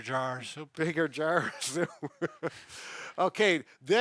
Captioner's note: laughs